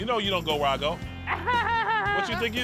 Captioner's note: laughs